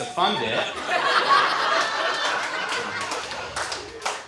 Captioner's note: audience laughs